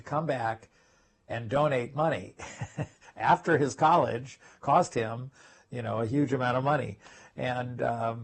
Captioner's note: laugh